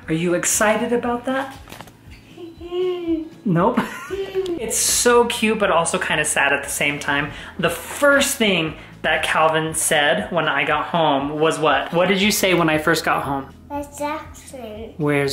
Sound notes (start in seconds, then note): 2.6 hums